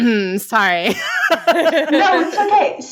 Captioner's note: laughing